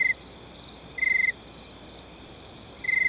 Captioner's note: crickets chirping